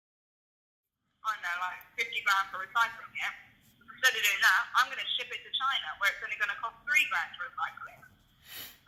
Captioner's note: on phone